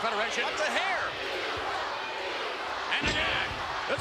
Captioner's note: spectators cheering